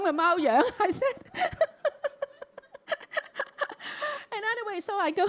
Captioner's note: Cantonese; laughs